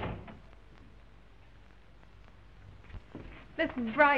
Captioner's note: door thuds